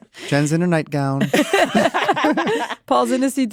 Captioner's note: all laugh